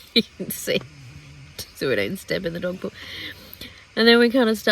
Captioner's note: laughing